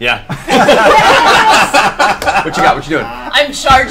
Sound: all laugh

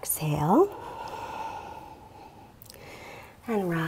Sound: exhales deeply

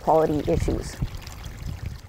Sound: running water

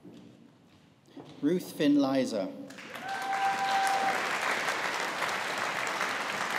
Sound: audience applauding

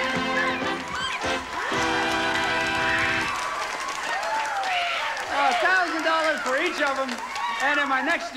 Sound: audience applauding

